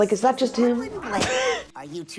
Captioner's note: laughs